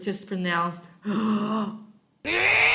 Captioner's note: deep breath